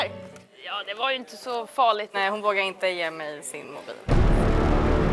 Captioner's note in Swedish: none